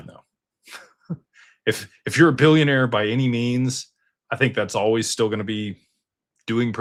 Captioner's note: laughter